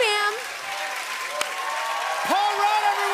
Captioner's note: cheering and applause